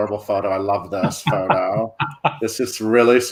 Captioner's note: laughing